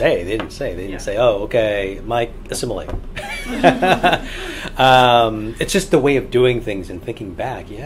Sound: all laugh

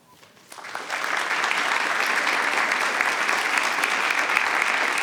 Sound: audience applauding

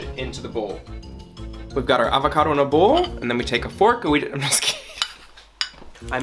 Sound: laughs

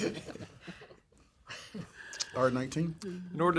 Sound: laughter

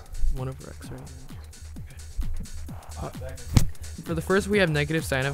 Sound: whispering

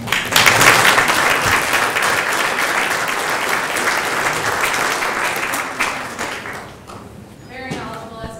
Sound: applause

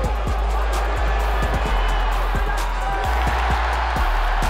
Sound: crowd cheering

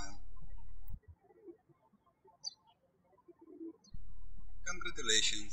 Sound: birds chirping

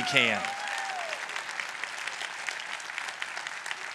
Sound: applause

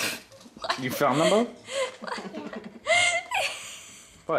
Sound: laughing

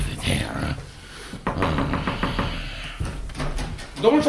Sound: knocks on the door

